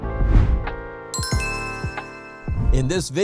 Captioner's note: bell ringing